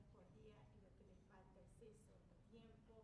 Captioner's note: none